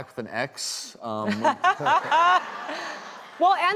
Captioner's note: laughing